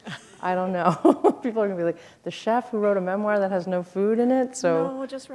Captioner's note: chuckle